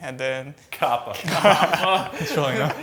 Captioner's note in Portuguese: risos